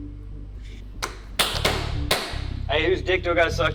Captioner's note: Max smacking